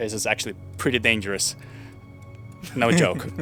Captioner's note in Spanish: ríe